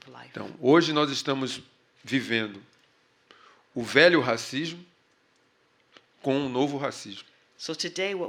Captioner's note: speaking portuguese